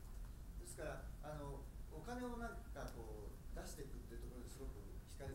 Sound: speaking in foreign language

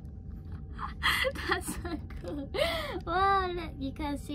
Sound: laughter

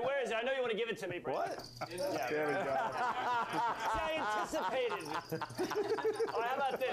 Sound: sound of crickets

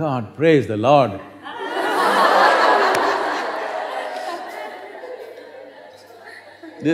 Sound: laughter

